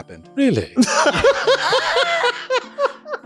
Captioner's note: laughter